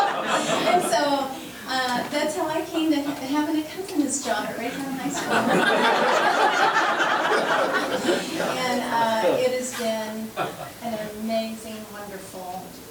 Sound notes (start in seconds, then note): 0.0 laughing; 7.4 members laughing